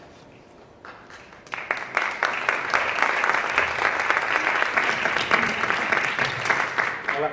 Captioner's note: Aplaudiments